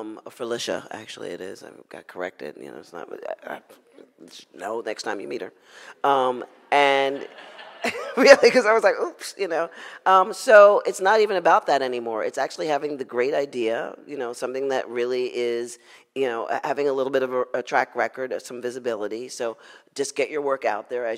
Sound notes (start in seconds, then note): 7.1 audience laughs